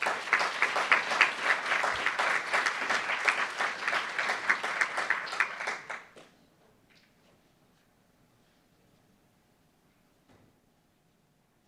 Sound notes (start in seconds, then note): 0.0 applauds